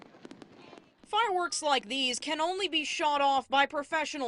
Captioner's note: sound of fireworks